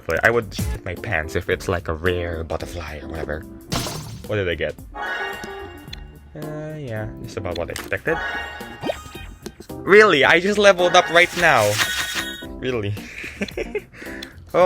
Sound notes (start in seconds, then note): 8.1 level up sound; 13.6 chuckles